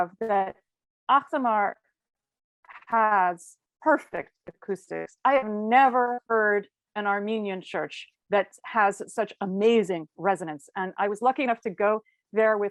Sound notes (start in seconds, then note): none